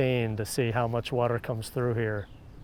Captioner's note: none